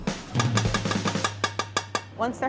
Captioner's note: upbeat percussion music; plate tapping